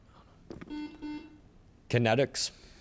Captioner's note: buzzer chimes